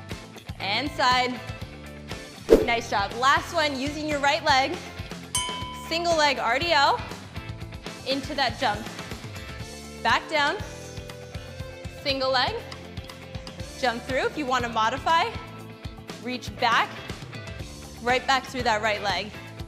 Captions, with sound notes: And side, nice job. (air swoosh) Last one, using your right leg. (bell chimes) Single leg RDL, into that jump. Back down, single leg, jump through, if you wanna modify, reach back, right back through that right leg.